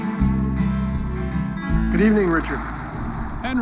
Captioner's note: parker, over phone